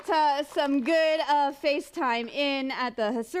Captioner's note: applause